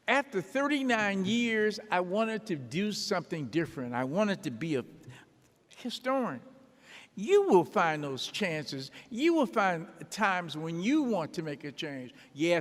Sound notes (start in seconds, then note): none